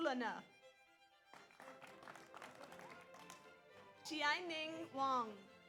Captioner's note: audience applauds